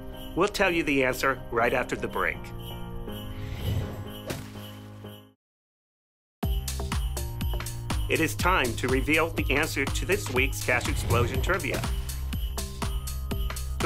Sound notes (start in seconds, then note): 3.3 whoosh; 3.5 splat